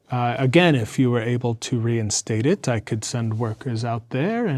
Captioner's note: none